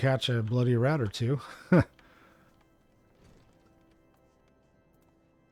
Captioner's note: laughs